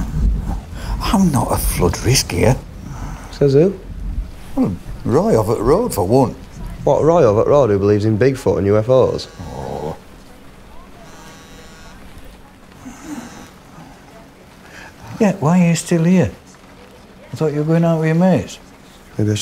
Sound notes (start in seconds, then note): 8.8 Jack's mobile phone buzzes; 9.5 grumbles